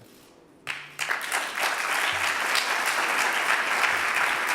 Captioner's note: audience applauding